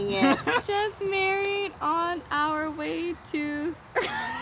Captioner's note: laughs